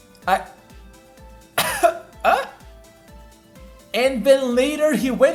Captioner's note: cough